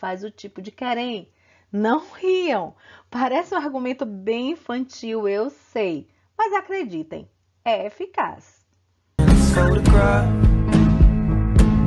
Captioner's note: laughs